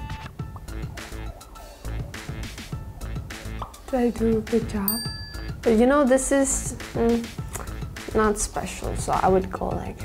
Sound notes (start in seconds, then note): 0.1 smacks her lips; 1.4 funky upbeat music; 3.2 image pops; 6.9 hums; 7.5 clicks her tongue